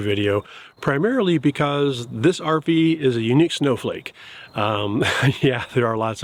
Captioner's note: chuckles